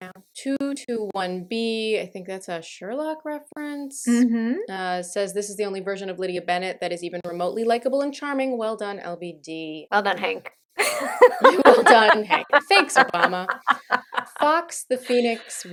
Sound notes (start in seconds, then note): 10.8 laughter